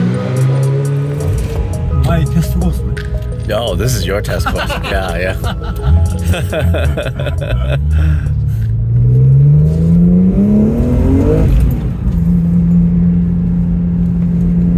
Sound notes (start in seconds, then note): 6.1 both laughing; 10.0 engine revs